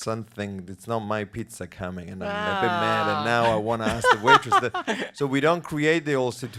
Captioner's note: laughters